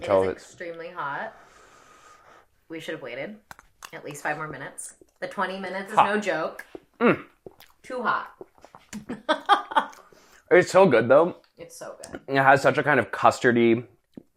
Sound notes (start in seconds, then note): 9.0 laughs